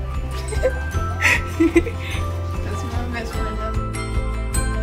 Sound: laughing

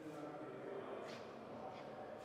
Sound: indistinct chatter

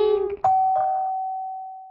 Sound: doorbell

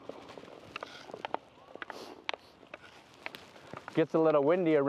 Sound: hockey stick clacking

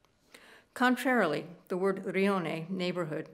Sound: speaking italian

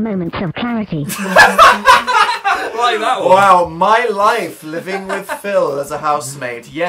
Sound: laughs

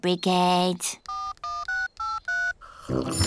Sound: dialing; phone rings

